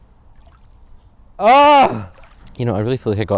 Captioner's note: short scream